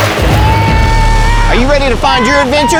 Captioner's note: yelling